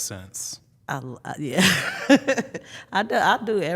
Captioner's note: laughs